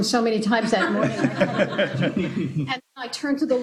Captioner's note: laughter